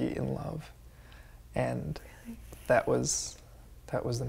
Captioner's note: whispers